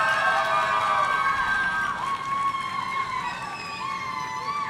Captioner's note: audience cheering